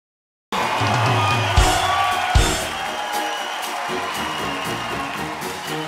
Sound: crowd cheering; mellow rock music

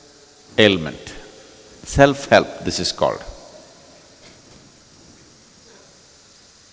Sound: laughs

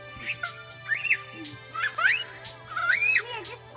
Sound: giggling

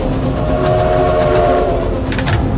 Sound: train honking

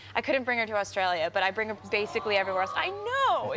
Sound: audience awww

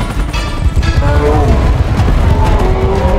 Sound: grunting

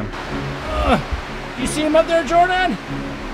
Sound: grunting

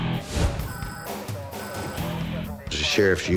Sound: police radio chatter

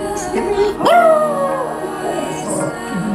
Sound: howling

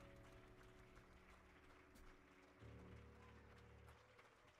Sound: audience applauding

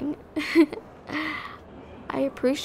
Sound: soft laugh

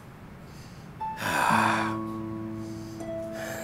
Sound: breathes heavily

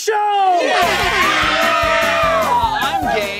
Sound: cheering

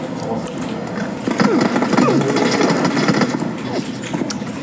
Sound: The sound of Lee Know's character being beaten

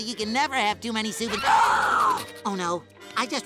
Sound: gasping

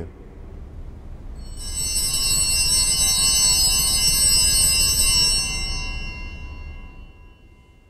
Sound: bells ringing

